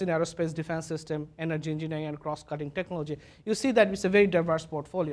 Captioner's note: none